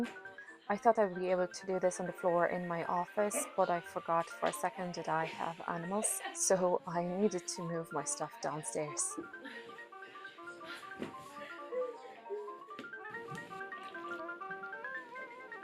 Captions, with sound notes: I thought I would be able to do this on the floor in my office but I forgot for a second that I have animals so I needed to move my stuff downstairs. (crying)